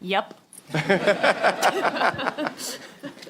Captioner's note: laughter